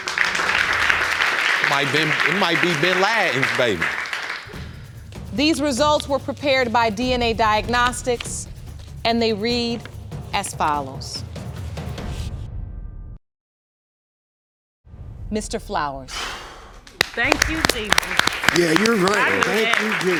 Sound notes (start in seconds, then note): 0.0 audience applauding; 16.1 exhales; 16.9 audience applauding